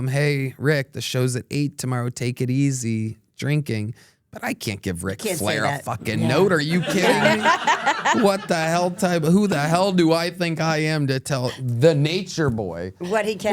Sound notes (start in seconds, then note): 6.1 everyone laughs